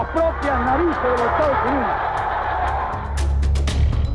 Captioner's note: speaking spanish; cheering and applause